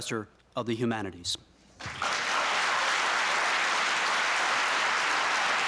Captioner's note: applause